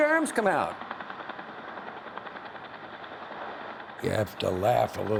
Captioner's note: helicopter blades whirring